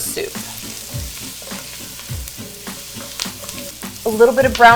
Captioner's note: food sizzling; upbeat music